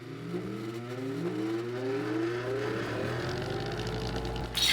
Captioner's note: machine whirring